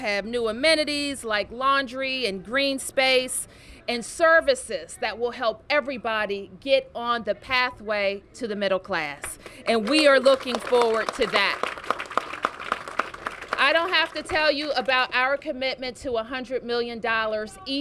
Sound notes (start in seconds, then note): 12.5 applause